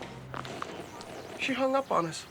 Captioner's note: click, static